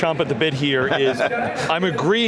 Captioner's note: chuckles